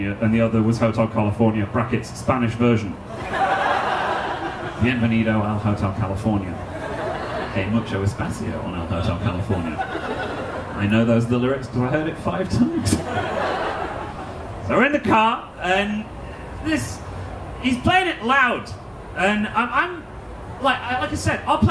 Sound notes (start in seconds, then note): 3.0 audience laughing; 5.0 foreign language